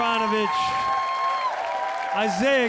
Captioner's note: audience cheering